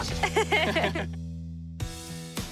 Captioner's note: all laughing